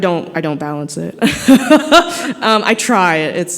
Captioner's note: laughter